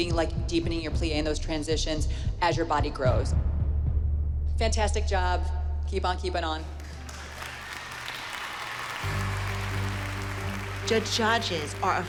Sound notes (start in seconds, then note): 8.5 applause and cheering